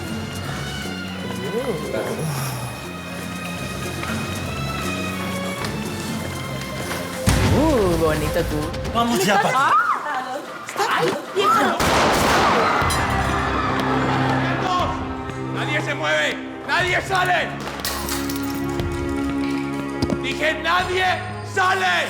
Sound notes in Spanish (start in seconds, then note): 11.8 Disparos; 12.3 Griterío